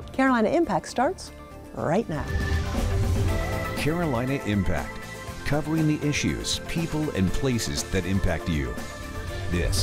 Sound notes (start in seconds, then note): 2.2 air whooshing; 3.2 upbeat music